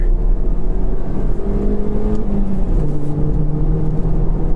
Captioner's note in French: bruit de moteur